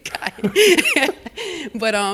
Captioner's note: laughter